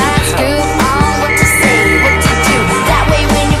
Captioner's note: blows whistle for help